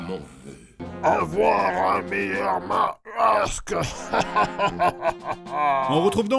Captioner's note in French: rire méchant